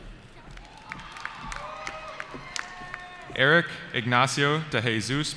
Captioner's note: cheering